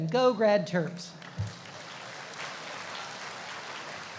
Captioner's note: applauding